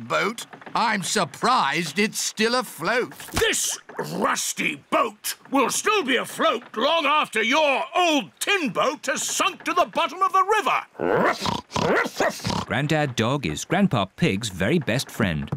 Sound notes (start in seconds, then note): 11.0 oinks; 11.8 barks